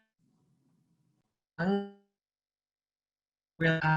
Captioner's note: audio cuts out